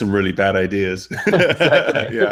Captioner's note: laughter